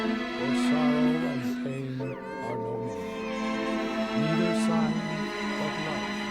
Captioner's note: priest speaking faintly; baby crying